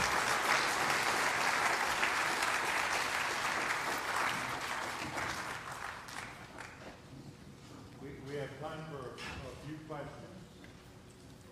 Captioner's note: applause